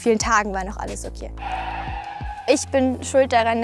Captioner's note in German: Bremsgeräusch